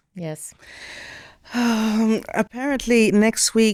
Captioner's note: sighing